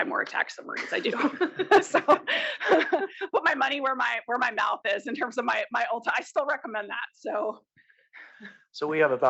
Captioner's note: laugh